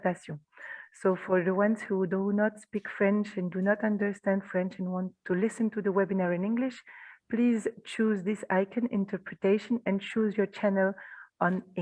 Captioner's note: guidance in English